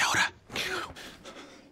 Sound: gasps

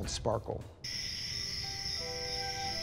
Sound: crickets chirping

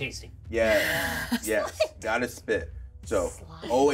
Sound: laughs

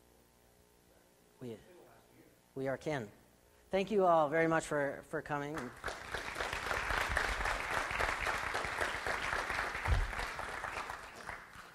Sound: audience applauds

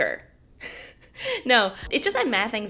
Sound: laughs

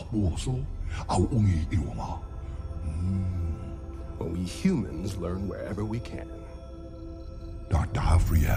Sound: in English

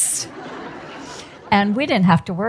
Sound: audience laughs

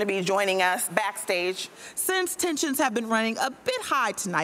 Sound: none

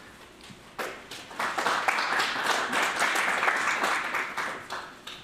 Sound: audience applauds

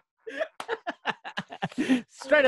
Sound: laughing

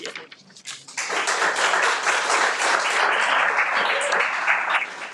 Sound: everyone applauds

